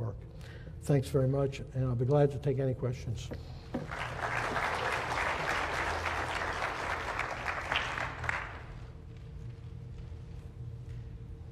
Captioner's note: applause